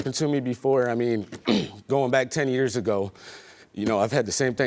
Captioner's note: clears throat